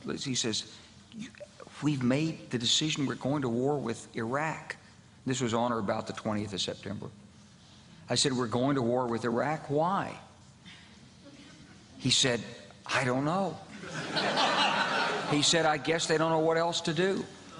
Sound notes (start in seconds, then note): 13.7 laughter from crowd